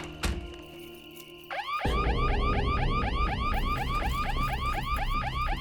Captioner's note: alarm blaring